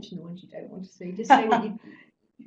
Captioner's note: laugh